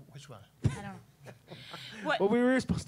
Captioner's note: laughing